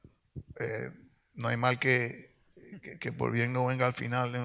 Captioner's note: speaks in Spanish